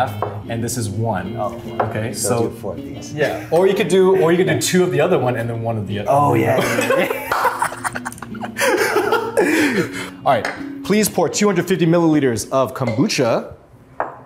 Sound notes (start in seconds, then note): 6.5 both laughing